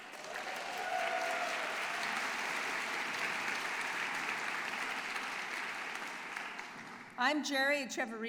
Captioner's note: applause and Cheering